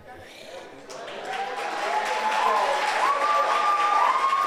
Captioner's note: audience applauds